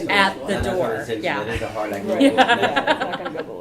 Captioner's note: laughter